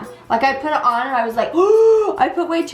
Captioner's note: gasps